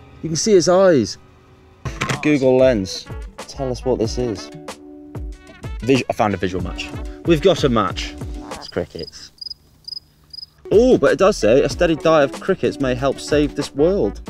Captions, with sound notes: You can see its eyes. Google Lens. Tell us what this is. I found a visual match. We've got a match. It's crickets. [CRICKETS CHIRPING] Oh, but it does say a steady diet of crickets may help save this world.